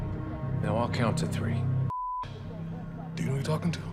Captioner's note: beep